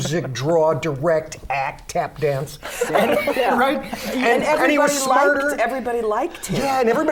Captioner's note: laughter